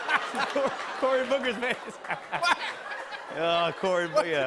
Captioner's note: laughter